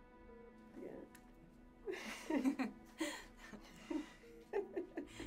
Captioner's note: women giggle